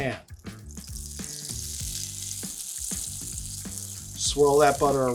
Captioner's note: butter sizzling